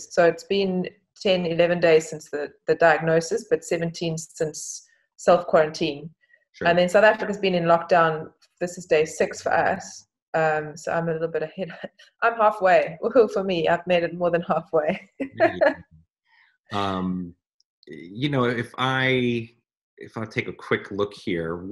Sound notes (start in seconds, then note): 15.0 laughs